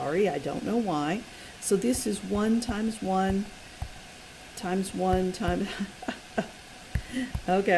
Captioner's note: laughing